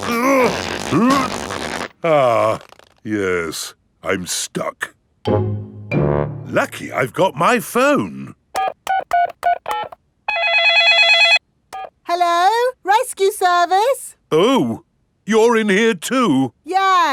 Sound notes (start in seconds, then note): 0.0 grunting; 8.5 dialing; 10.2 cell phone ringing